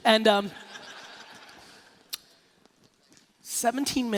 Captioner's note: laughing